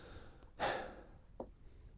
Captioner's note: sighs